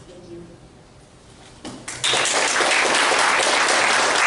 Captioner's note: applause